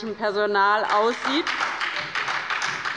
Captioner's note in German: Beifall bei der LINKEN und der SPD